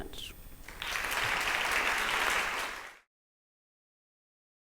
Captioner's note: applause